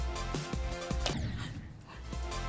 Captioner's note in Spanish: crash